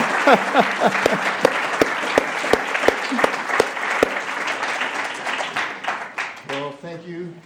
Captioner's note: applause